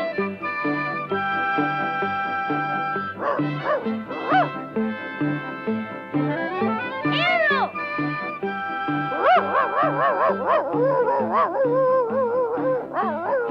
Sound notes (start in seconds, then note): 4.2 Arrow barking; 9.1 Arrow barking and howling